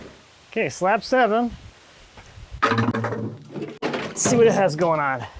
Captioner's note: bucket clanging